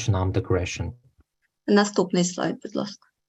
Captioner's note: foreign language